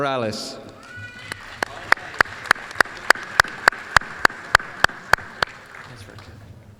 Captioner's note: applause